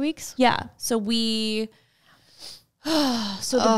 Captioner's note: sighs